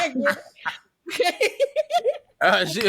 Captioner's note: laughter